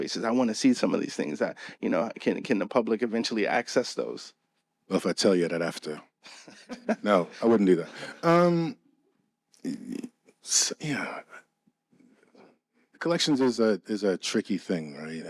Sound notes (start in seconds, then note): 6.6 laughing